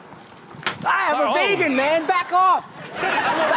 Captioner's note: bird thumps helmet; audience laughs